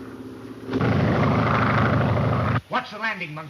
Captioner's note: plane engine roars